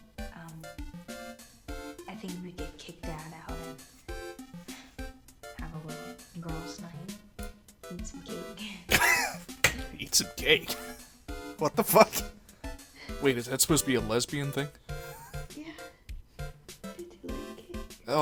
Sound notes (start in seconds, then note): 8.9 wheeze